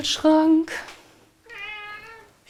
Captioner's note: meow